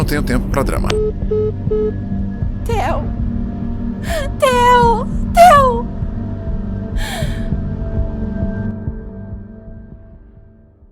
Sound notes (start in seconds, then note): 7.0 sigh